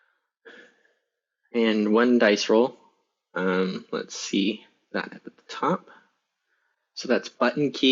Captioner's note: sighs